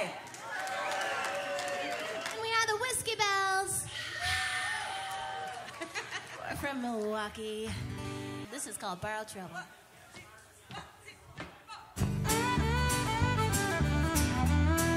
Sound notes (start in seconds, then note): 0.1 applause; 3.9 singers sigh; 5.6 laughing